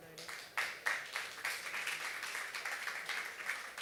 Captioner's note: applause